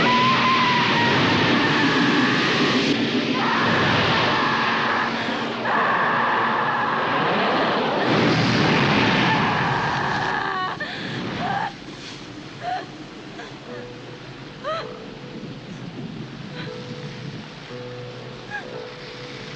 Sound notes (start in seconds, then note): 0.0 screams; 7.9 loud whoosh; 9.6 electric buzzing; 10.8 gasps